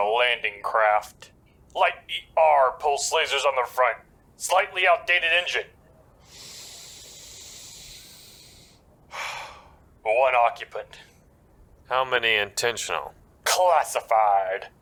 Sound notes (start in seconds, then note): 6.3 inhale; 9.1 exhale